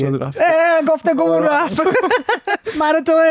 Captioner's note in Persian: خنده